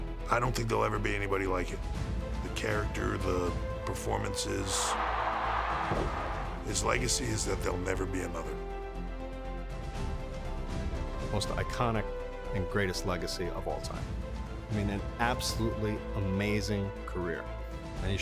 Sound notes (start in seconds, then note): 4.8 crowd roaring; 10.0 inspiring music continuing